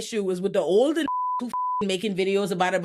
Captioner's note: beep